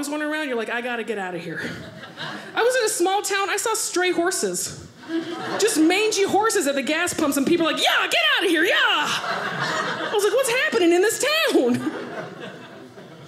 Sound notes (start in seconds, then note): 11.2 audience laughing